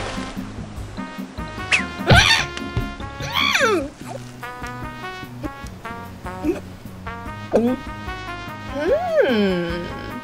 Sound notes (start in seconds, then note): 6.3 gulps